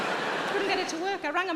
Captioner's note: audience laughing